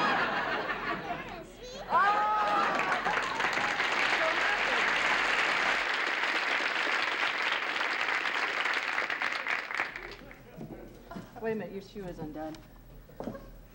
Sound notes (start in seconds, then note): 4.5 laughter; 8.3 applause